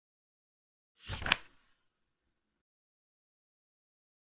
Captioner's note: page flip sound